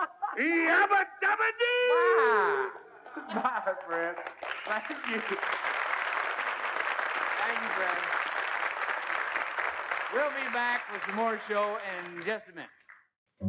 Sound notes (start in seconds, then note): 0.0 laugh; 5.9 applause